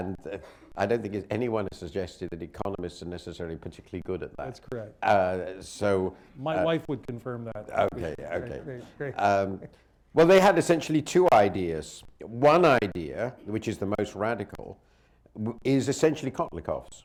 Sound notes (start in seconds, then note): 9.4 laughter